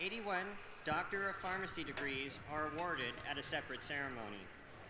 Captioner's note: applause